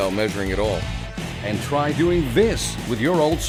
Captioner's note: voiceover